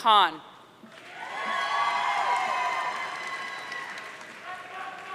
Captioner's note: audience cheering